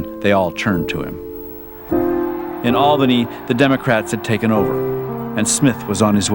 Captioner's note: crowd Cheering